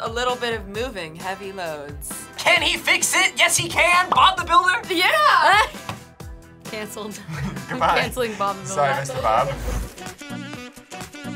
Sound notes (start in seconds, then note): 5.5 laughs